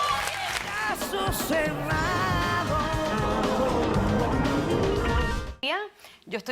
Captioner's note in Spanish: Aplausos